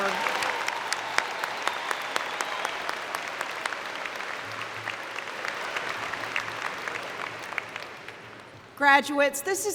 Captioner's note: cheering and Applause